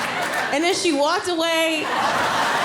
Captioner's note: audience laughing